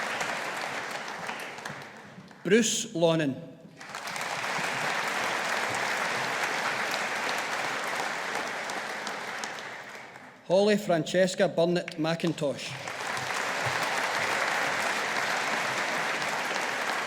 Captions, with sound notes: Bruce Lonnen. (AUDIENCE APPLAUDING) Holly Francesca Burnett McIntosh. (AUDIENCE APPLAUDING)